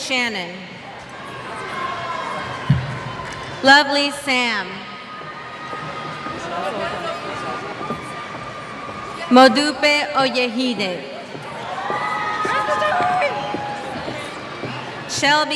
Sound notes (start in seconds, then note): 0.8 cheers; 5.0 cheers; 11.2 cheers